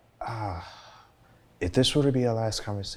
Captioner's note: sighs